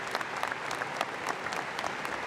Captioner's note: applause